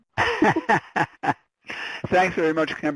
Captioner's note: laughing